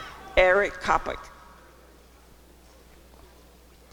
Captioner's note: applause and cheering